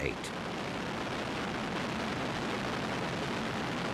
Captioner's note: plane roaring